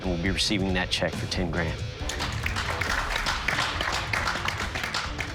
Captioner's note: applause